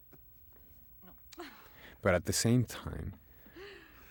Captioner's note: whispering